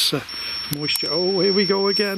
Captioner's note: alarm ringing